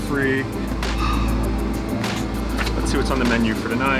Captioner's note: sighing